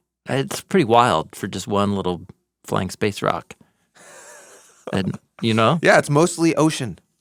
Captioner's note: chuckles